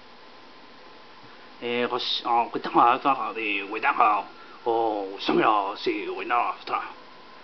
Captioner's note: foreign language